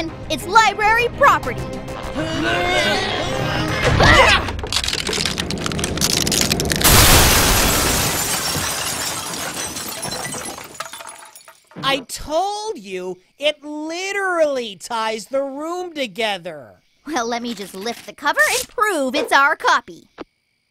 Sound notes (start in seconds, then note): 2.0 grunting; 4.8 walls cracking; 6.8 crashing